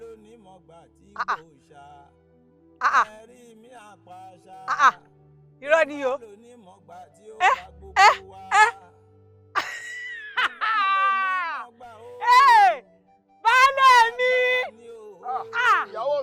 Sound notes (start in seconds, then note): 9.5 laughter